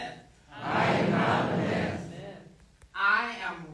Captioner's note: crowd